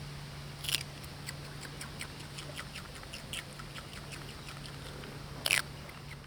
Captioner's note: lemur munching